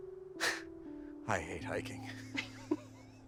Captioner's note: laughs; both laughing